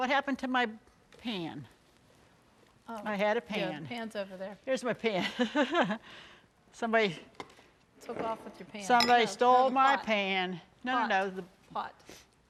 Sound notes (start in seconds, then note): 6.0 laughs